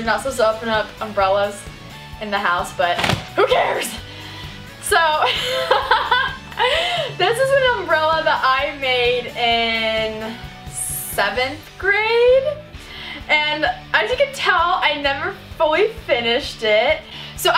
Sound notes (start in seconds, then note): 2.9 umbrella pops; 5.2 laughs